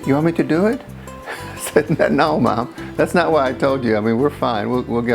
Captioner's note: laughs